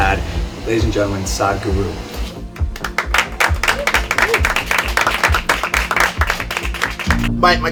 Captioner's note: cheering/Applause